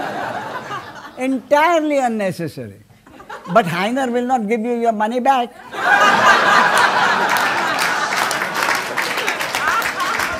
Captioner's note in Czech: smích